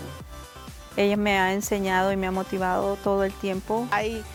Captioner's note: speaking Spanish